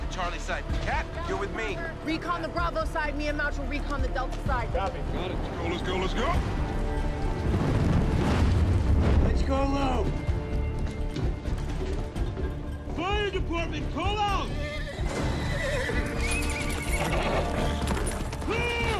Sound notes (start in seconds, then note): 14.4 horses neighing